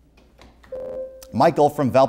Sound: buzzer

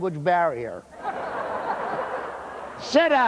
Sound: laughter

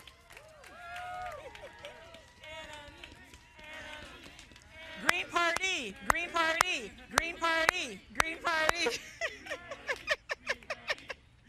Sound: cheering and Applause

